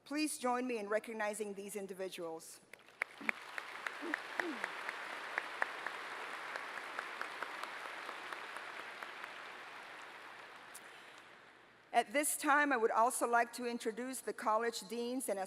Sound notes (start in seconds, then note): 2.7 applause